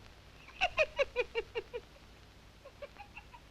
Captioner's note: laughing